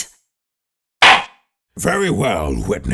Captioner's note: gavel slams!